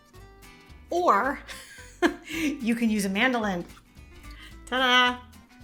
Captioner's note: chuckles